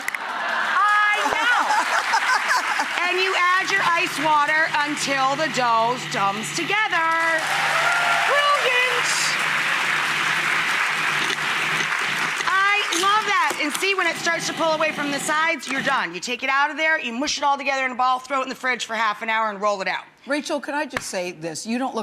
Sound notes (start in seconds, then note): 1.1 laughter; 7.0 applause